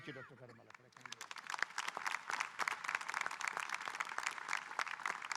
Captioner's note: audience applauding